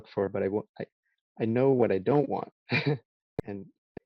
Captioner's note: chuckles